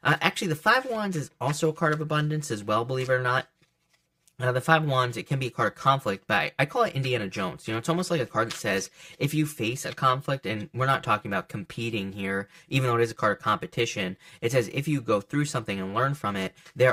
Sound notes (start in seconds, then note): 7.8 cards shuffle softly